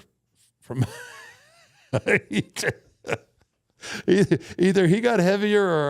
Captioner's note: Undertaker chuckling